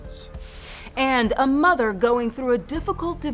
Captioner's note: air whooshes